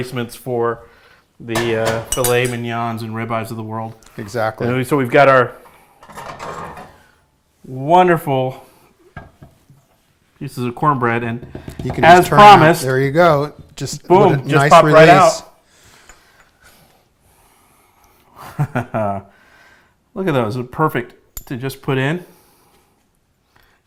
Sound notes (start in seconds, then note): 18.4 chuckling